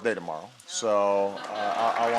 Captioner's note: applause